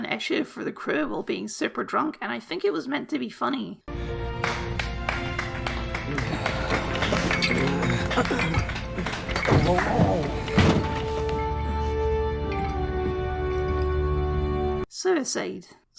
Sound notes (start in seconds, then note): 4.2 applause; 10.4 drunk person noises